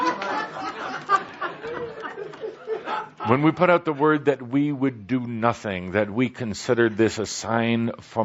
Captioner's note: laughter